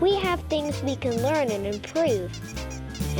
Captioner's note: squeaking